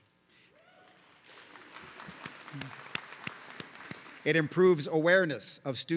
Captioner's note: audience cheering